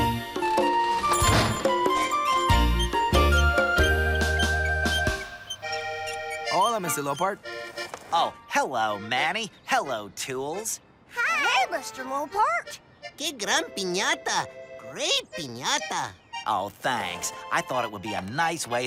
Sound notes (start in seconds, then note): 0.8 door shuts, chime jingles; 2.7 wheels squeak